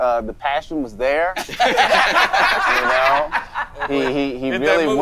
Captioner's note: all laughing